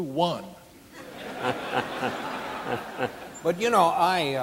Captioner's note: audience laughing